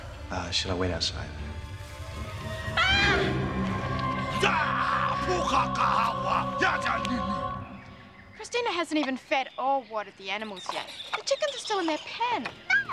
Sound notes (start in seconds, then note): 2.3 screaming; 4.2 non-english speech